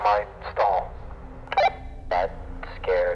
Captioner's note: walkie-talkie blips